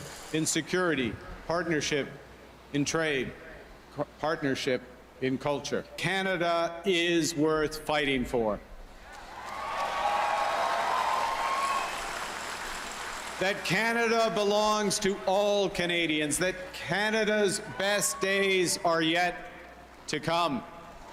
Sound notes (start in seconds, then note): 13.6 cheering and Applause